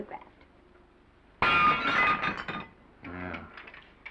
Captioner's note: plate shatters